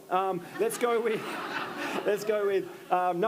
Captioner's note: attendees laughing